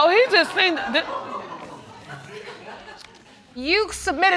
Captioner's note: scattered laughter